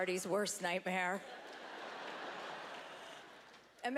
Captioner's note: laughter